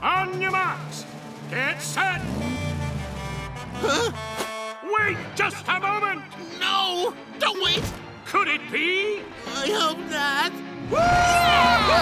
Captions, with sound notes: On your marks... Get set... [honking] Huh? Wait just a moment! No, don't wait! Could it be? I hope not. - Whoo-hoo-hoo! - Yeah!